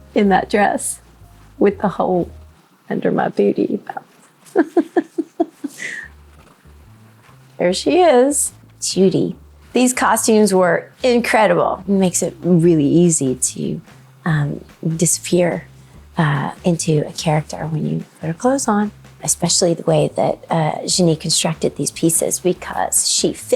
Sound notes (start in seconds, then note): 4.5 person laughing